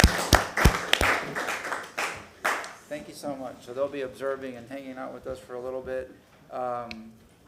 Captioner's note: applause